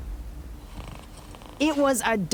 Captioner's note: dog snoring